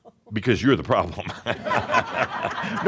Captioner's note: chuckling; laughter